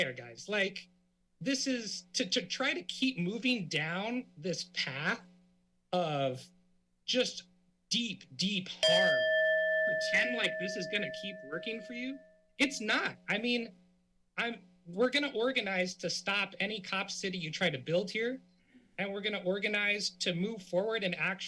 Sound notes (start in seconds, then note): 8.8 timer bell rings